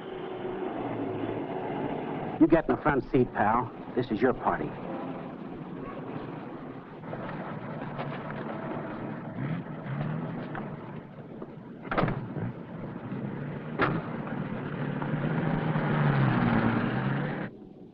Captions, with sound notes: - You get in the front seat, pal. This is your party. (car doors slam) (car rumbling)